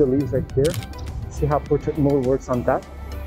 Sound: camera clicking

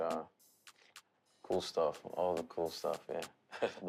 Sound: chuckles

